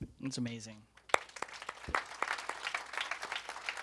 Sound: applause

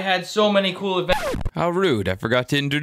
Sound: skidding stop

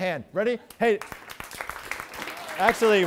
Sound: applause

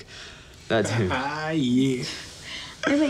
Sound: laughs

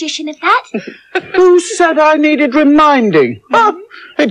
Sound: others Chuckle

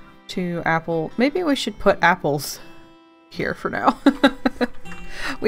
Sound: laughs

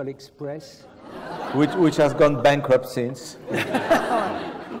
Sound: laugh

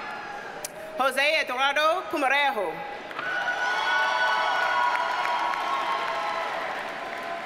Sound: audience cheers and applauds

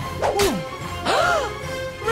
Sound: gasps

